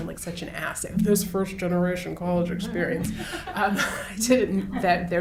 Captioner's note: laughs